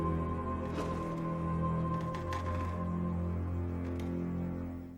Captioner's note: door creaks open